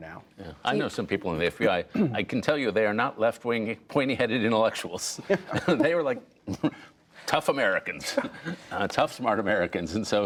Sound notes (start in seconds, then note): 5.2 laughter